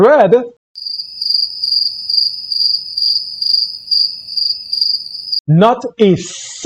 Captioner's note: crickets sound effect